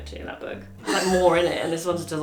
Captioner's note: laughs